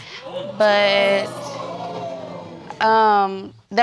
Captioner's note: audience exclaiming